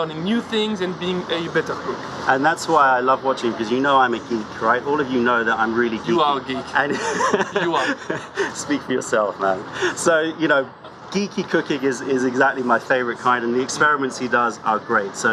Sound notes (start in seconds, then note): 6.8 laughter